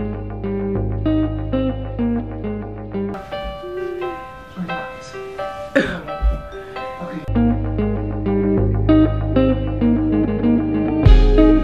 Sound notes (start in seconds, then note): 5.6 laughing; 8.2 gentle guitar music